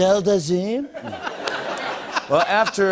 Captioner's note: laughter